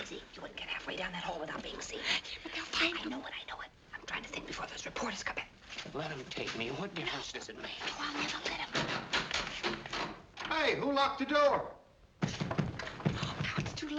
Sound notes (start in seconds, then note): 8.8 doorknob rattling; 12.2 pounding